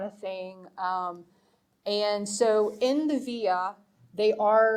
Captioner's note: speaking foreign language